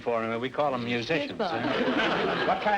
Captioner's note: audience laughter